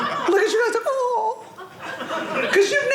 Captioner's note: audience laughing